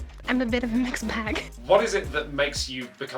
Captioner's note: woman laughs